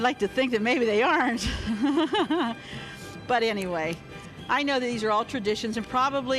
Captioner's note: laughs